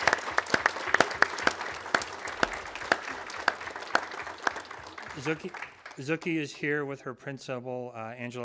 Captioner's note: applause